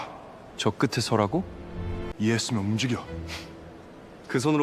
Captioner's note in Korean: 콧방귀